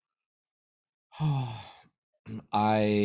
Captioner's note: sighs